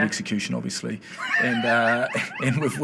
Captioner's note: laughing